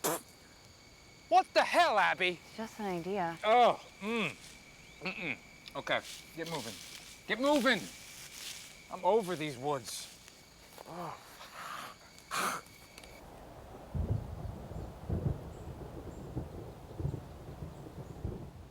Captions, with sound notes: What the hell Abby! - It's just an idea. - Mm-mm, okay, get moving. Get moving! I'm over these woods. (thunder rumbling)